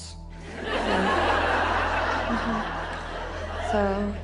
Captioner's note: audience laughs